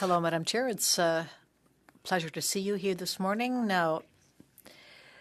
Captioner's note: speaking French